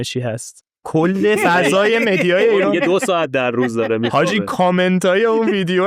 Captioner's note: laughs